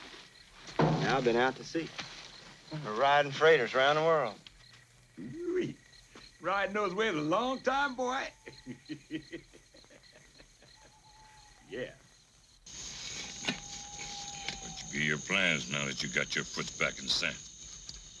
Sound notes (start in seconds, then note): 8.2 laughs